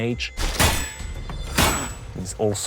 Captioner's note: clanging